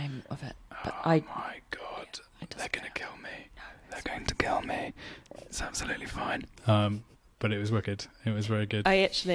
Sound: whispers

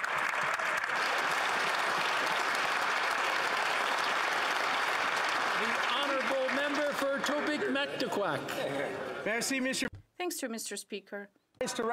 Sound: applause

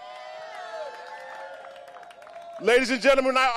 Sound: applause

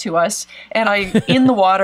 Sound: laughs

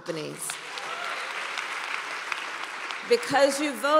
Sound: applause

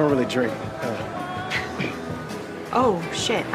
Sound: laughs

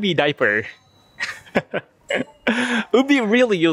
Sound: chuckle

